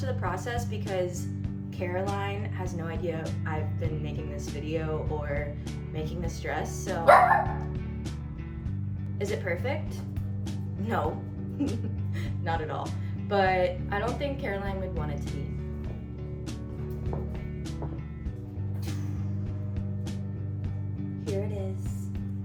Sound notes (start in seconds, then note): 7.0 barking